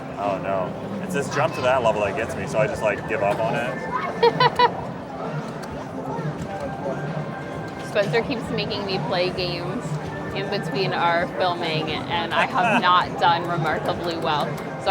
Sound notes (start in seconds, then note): 4.2 laughs; 5.2 others chattering indistinctly